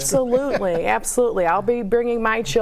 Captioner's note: panel chuckles